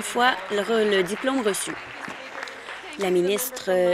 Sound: applause

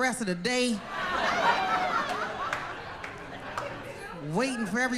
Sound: laughter

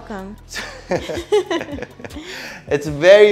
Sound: chuckles

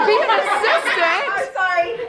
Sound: laughter

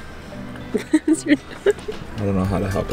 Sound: laughs

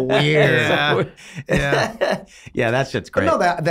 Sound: Glenn laughing

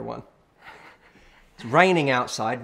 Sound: laughing

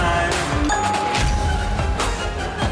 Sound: bell rings; intense music

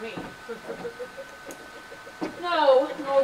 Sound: R&G quietly laugh

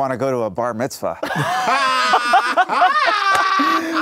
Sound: laughs

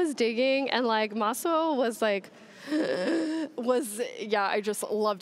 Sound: gasping

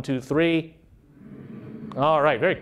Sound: humming

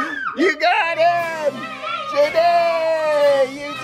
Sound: cheering

